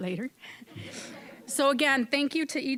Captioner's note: audience chuckling